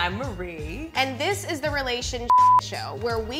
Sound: beep

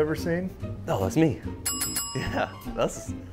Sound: bell dings

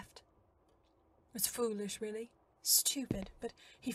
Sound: footsteps

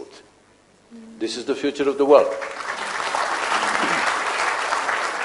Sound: applause

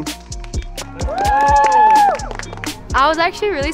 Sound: all cheering and applauding

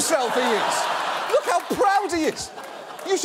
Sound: audience laughing

